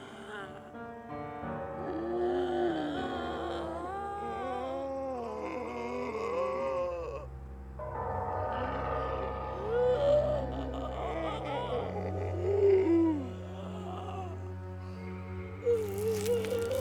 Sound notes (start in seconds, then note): 4.0 demonic groans